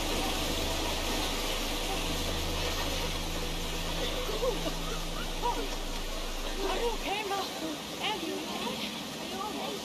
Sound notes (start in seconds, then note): 0.2 waterfall flowing; 5.2 goonies coughing